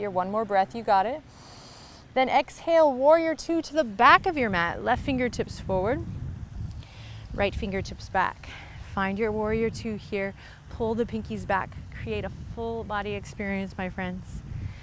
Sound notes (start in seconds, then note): 1.3 inhales